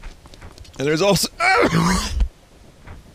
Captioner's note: noise while coughing